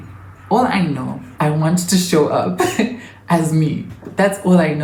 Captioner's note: giggles